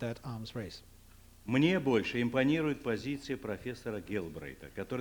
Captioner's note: non-english speech